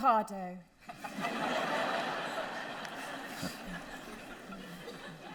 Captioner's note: audience laughter